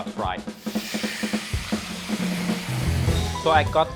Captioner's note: sizzling oil